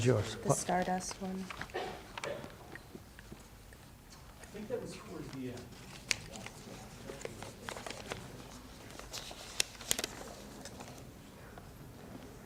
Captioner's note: pages turning